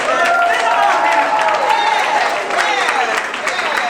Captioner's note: audience cheering and clapping